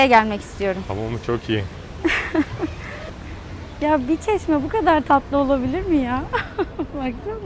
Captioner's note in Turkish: kahkaha